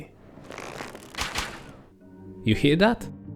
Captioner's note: pew pew